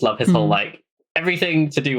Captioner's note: laughs